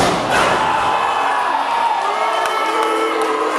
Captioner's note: body crashes into mat